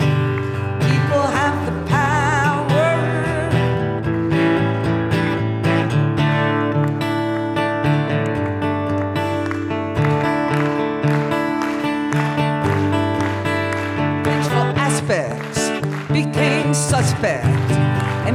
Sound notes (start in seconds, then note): 4.6 acoustic guitar; 5.6 audience claps